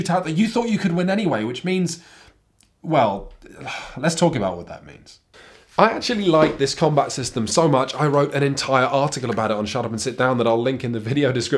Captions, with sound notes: that you thought you could win anyway, which means, well... [sighs] Let's talk about what that means. I actually like this combat system so much I wrote an entire article about it on Shut Up & Sit Down that I'll link in the video description